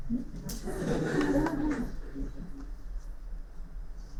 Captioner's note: laughing